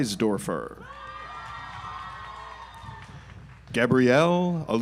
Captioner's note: audience applauds